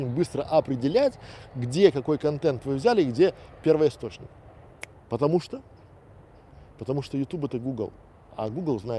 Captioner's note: щелчок пальцев